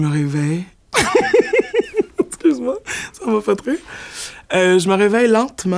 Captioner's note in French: éclat de rire